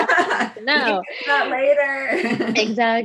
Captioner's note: laughs